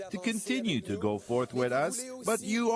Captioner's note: speaking in French